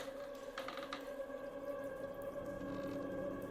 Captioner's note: door creaks